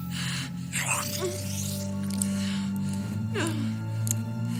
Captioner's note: groaning